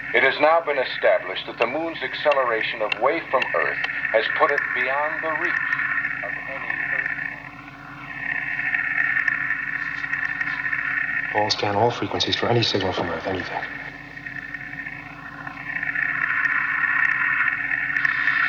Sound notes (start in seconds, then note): 7.6 assobios estáticos; 15.3 crepitação estática